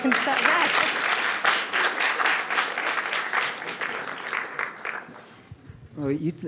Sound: applause

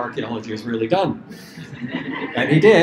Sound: laughter

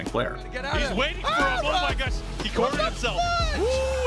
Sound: yelling

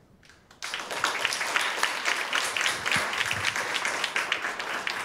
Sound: audience applauding

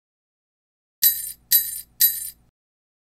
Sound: sound of sleigh bells

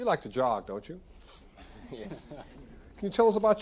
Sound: audience laughing

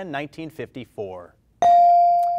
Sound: bell rings

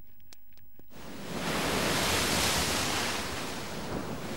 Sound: sounds of the waves crashing up against the beach

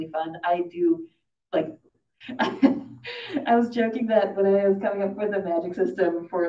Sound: laughs

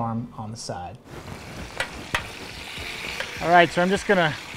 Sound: fire crackling

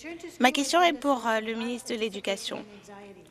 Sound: speaking French

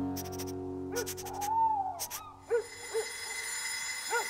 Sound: dog Barking; alarm Clock Ringing

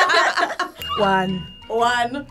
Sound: bell dinging

